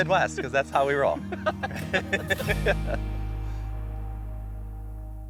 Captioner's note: both laughing